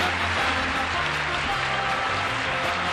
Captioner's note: applause; theme music